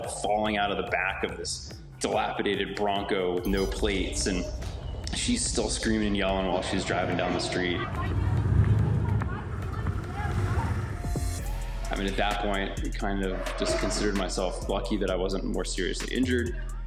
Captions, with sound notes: falling out of the back of this dilapidated Bronco with no plates. And she's still screaming and yelling while she's driving down the street. [shouting] I mean, at that point, I kind of just considered myself lucky that I wasn't more seriously injured